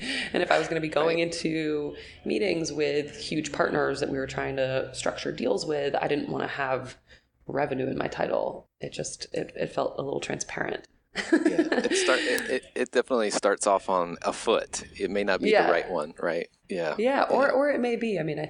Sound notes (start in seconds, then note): 11.2 laughing